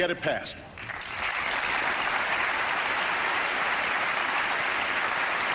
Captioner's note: applause